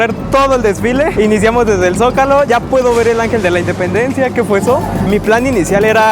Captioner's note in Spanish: Ruido fuerte al fondo